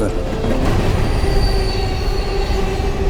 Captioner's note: train rumbling